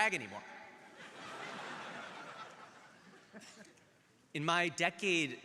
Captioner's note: crowd laughing